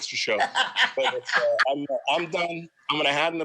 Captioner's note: laughs